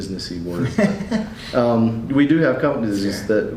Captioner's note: laughs